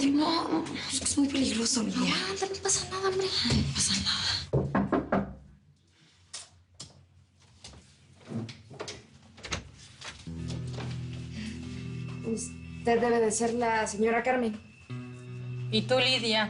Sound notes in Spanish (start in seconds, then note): 4.5 Sonido al tocar la puerta; 9.3 Sonido al abrir la puerta